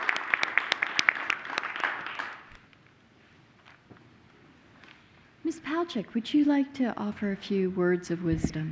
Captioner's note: applause